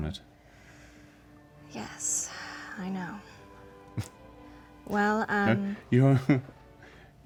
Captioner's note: sighs